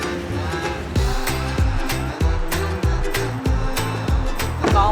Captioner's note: trudging